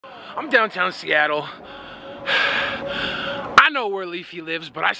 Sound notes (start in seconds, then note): 1.6 half inhales 2nd time; 1.6 inhales once